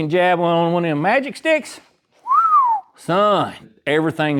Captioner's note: whistles